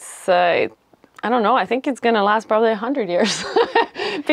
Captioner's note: laughter